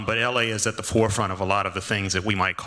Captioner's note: none